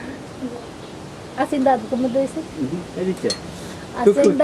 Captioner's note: in Quechua